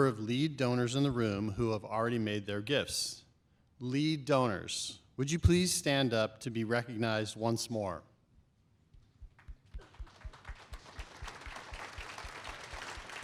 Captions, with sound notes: of Lead Donors in the room who have already made their gifts. Lead Donors, would you please stand up to be recognized once more. [APPLAUSE]